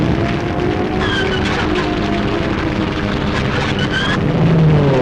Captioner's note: plane engine revving